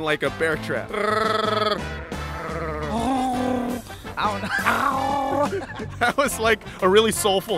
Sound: Chewie impression; gargling noise; Sassy purring

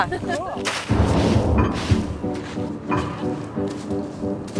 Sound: snow crunching; gentle music

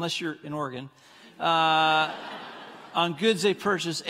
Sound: congregants laughing

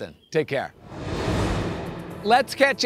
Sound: air whooshing

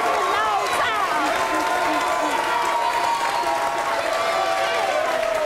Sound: audience cheering

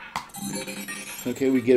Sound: ball rolling; successful chime

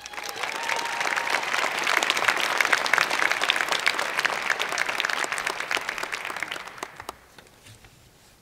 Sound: cheers and Applause

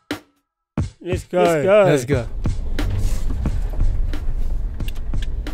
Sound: car ignition starts

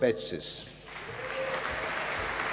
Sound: applause

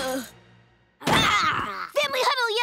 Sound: groaning; grunting

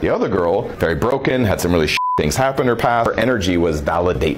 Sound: beep

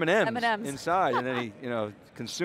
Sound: laughter

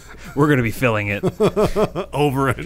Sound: laughing

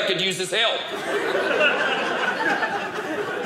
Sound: audience laughing

